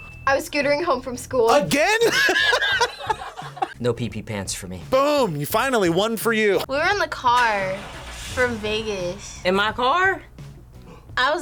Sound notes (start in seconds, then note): 1.8 both laugh